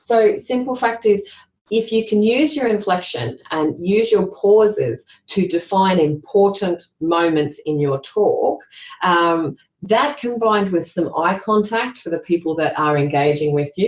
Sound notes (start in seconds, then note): none